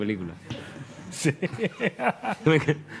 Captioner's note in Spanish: riendo